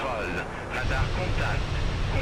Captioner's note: radio chatter